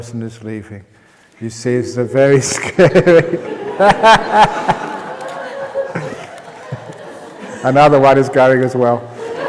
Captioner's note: roaring laughter; laughter